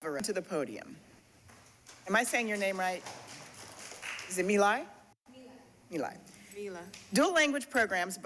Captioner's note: applause